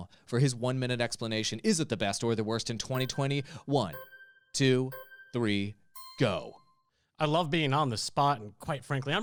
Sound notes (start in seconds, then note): 3.8 melodic timer